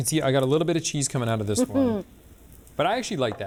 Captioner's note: chuckles